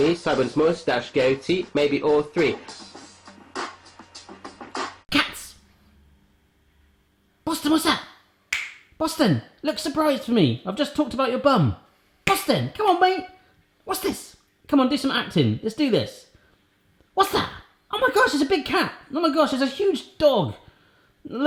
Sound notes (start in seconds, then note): 8.5 snaps